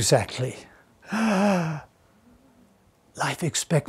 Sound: gasps

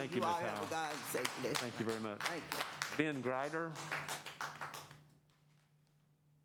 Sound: applause

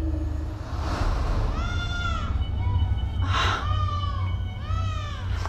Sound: baby crying

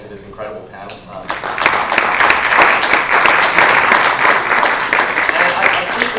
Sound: applause

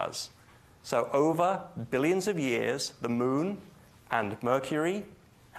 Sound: none

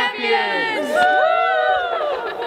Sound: cheering

